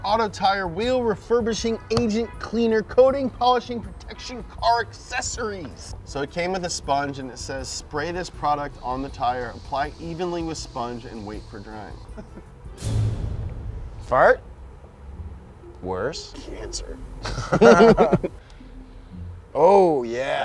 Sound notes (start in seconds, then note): 17.2 both laughing